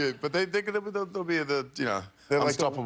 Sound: laughter

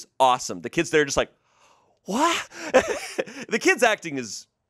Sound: laughs

